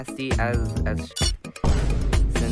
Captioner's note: ting